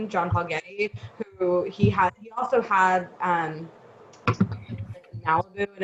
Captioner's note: taps mic